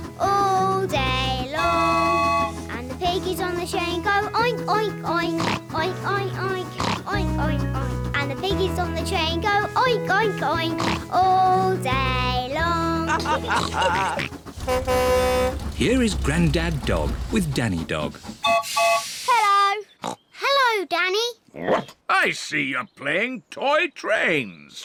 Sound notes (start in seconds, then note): 13.0 all chuckle; 13.6 horn blares; 18.4 toots whistle